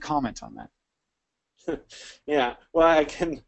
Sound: laughs

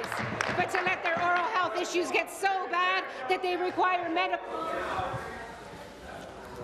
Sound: applause

